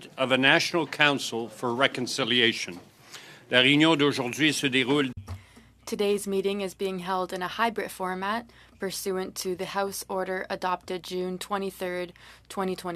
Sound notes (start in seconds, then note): 7.8 speaking French